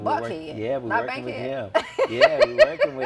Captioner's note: laughs